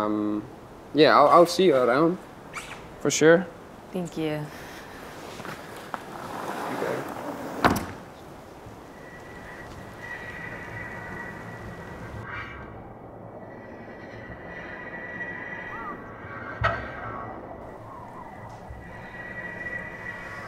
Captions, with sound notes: Yeah. I'll see you around, for sure. - Thank you. (door closing) (tense foreboding music) (crow cawing) (wind whistling)